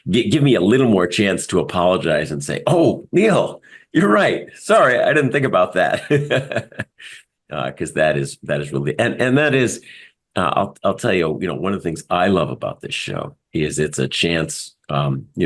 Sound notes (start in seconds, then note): 5.8 laugh